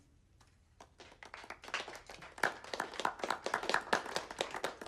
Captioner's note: students clapping